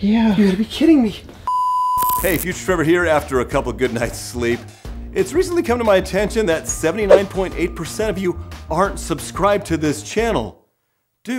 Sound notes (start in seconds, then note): 1.5 beep